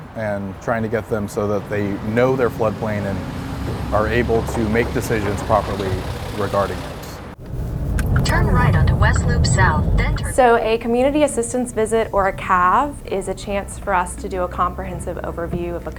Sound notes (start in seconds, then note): 7.4 engine noise